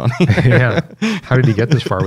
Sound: laughter

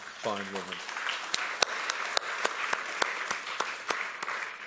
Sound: applause

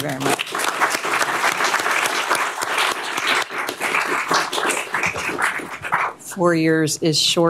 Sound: applause

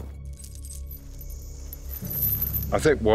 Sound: chain clinks

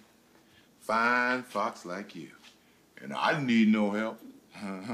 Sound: chuckles

